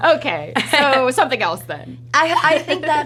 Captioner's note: laughs